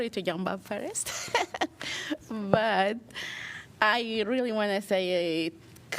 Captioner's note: laughter